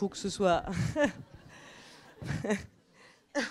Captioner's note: laughs